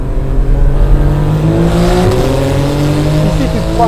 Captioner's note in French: Vrombissement des moteurs